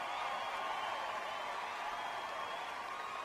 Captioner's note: applause